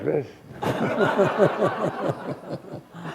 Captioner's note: laughter